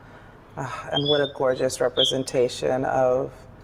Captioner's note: sighs